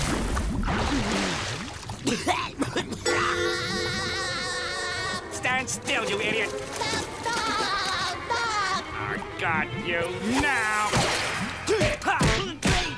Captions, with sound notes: [coughing] [SpongeBob laughter] Stand still, you idiot! I got you now!